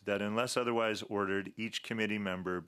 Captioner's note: speaking French